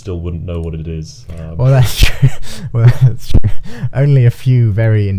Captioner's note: laughing